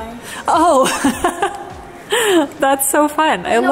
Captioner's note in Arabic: يضحك كريستال